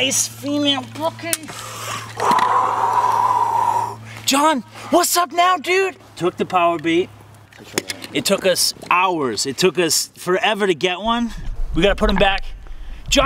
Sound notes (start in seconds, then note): 1.5 exhales deeply